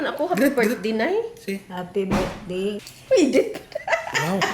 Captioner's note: snicker